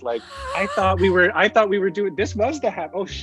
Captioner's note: more laughter